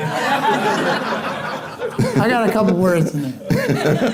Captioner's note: audience laughing